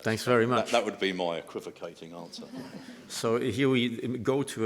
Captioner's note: laughter